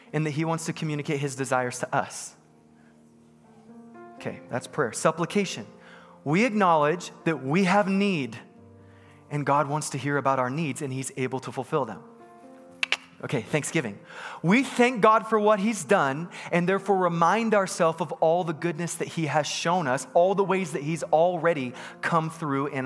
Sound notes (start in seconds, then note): 12.8 double-clicks his tongue